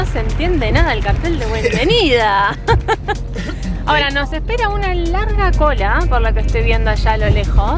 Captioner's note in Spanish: risas